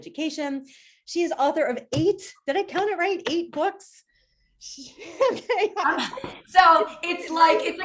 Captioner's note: laughs